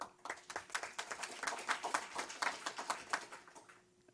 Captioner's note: applause